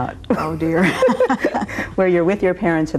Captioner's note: both laugh